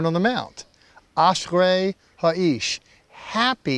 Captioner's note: speaking hebrew